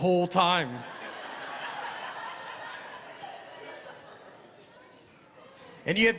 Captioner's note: laughter